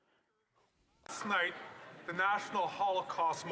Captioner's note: speaking French